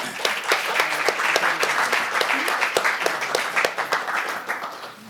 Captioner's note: audience applauding